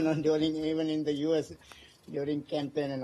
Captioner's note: laughter